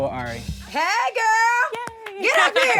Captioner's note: clapping